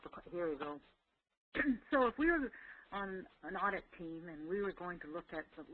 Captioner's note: cough